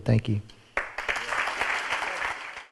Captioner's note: audience applauds